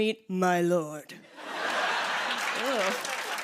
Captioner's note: laughter and applause